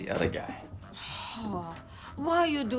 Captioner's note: sighs